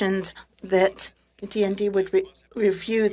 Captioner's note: speaking French